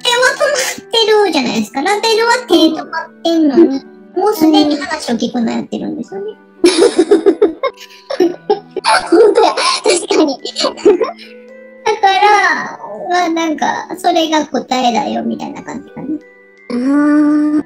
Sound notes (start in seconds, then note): 6.6 laughs